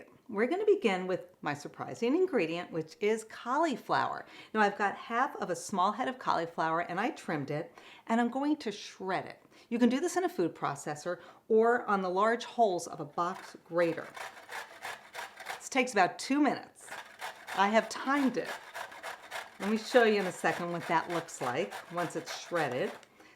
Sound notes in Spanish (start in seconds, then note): 16.8 rallando